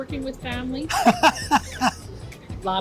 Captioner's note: laughs